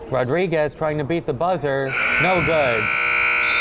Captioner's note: buzzer